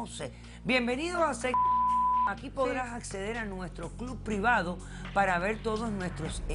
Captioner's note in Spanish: Bip